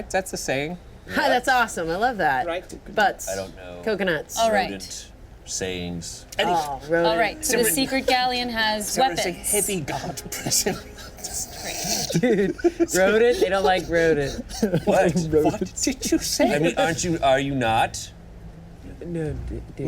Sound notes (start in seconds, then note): 7.7 teammates laughing; 11.8 laughs